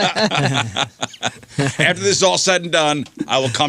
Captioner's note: laughing